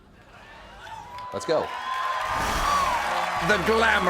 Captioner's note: cheers and applause